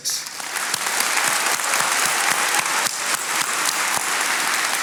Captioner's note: attendees applauding